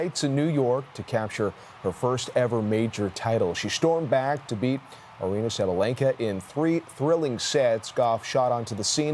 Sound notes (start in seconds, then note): 1.9 cheering and Applause